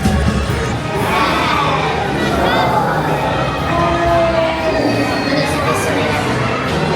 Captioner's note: Little Green Men wowing and exclaiming